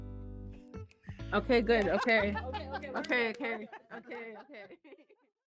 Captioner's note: laughing